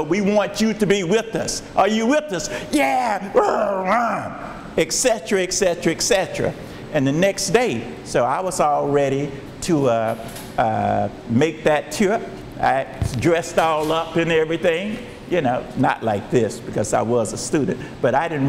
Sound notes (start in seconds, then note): 3.3 grunts